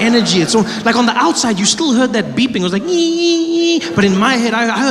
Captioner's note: beeping